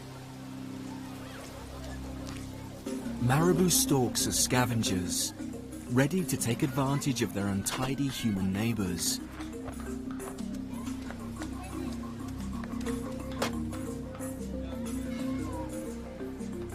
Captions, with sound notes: Marabou storks are scavengers, ready to take advantage of their untidy human neighbors. (lively music continues) (people chattering) Their bare head and neck